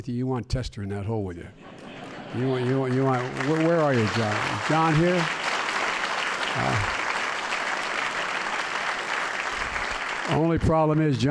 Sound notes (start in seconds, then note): 2.0 laughter and applause; 4.5 applause